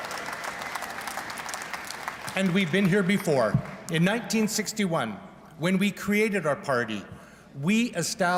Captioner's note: applause